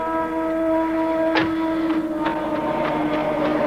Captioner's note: engine starts